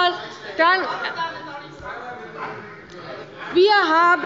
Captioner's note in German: Weitere Zurufe